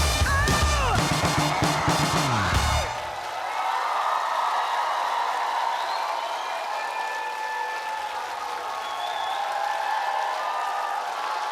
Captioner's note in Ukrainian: оплески